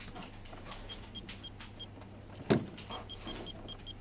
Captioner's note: beeping